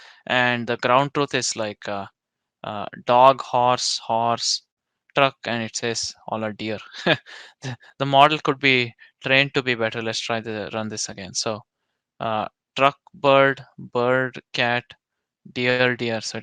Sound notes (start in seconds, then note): 6.8 chuckles